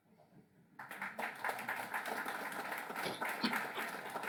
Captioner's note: applause